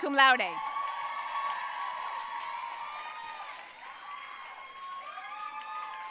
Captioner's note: audience cheering and applauding